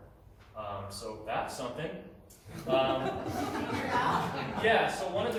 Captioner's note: laughter